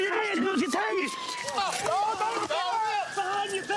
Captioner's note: yells